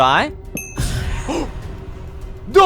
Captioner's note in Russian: Страшный звук